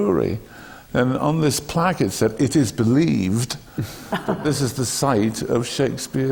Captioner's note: laughter from the panel